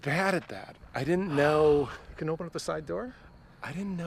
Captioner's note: sighs